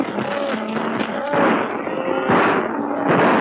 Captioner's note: gunshots